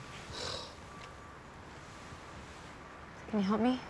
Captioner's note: sighing